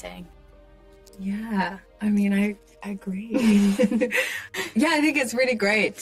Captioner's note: pair laughs